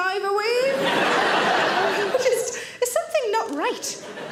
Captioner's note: audience laughing